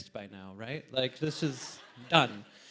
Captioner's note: audience laughs